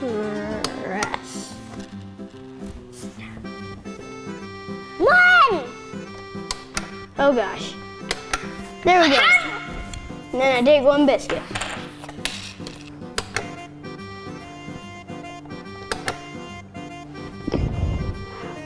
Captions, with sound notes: (button clicks) - One. (button clicks) - Oh, gosh. (button clicks) Nailed it. (exclaims) And I take one biscuit. (button clicks) (button clicks)